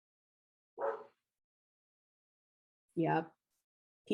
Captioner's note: dog barking